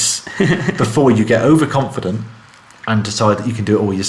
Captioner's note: chuckling